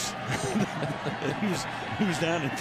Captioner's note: laughter